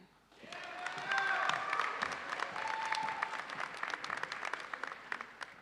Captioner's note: audience cheers and applauds